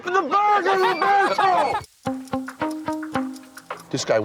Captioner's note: all laughing